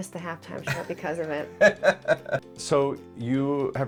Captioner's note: laughs